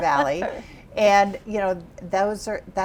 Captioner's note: laughs